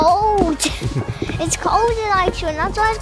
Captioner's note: laughing